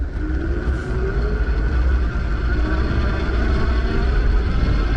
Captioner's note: eBike motor revving